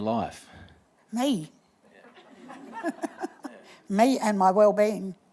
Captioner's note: laughs